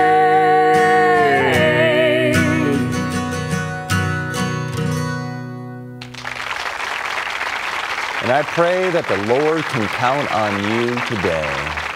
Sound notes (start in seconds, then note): 6.0 applause